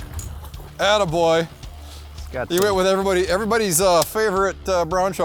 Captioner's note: voiceover